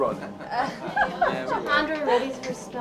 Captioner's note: group chuckles